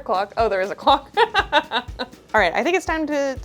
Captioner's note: laughing